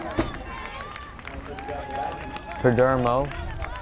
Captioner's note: crowd cheers and applauds